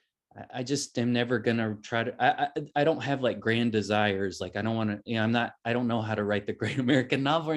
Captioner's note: chuckles